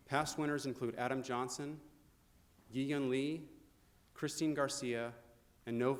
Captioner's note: none